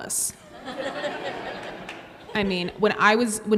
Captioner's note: audience laughs